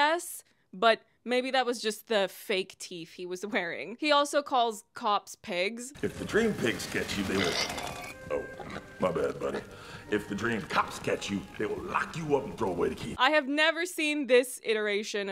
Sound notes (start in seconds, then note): 7.0 squeals